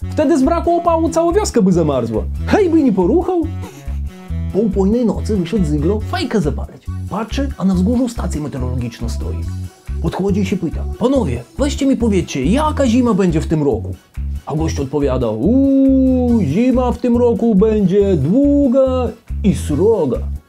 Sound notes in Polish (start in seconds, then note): 3.5 Śmiech Antka